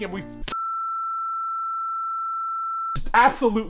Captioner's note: loud beep